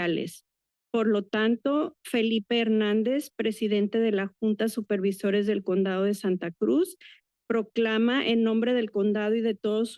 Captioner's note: foreign language